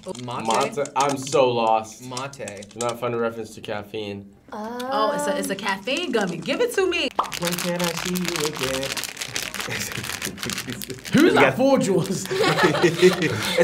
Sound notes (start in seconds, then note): 8.9 packaging crinkles; 9.6 laughs; 11.7 both laugh